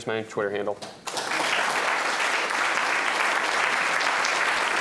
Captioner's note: applause